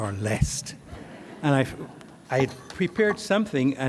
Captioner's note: audience laughs